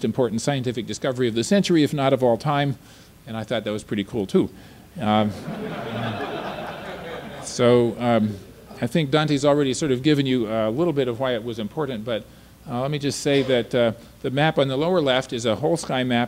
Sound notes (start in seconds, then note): 5.3 audience laughter